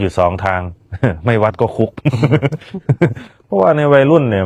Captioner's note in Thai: เสียงหัวเราะ